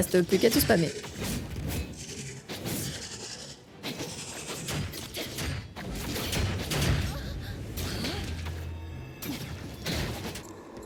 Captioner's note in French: bruits de combat